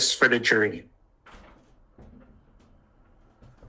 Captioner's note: door opening